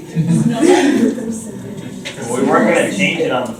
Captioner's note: chuckles